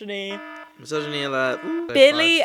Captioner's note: alarm blaring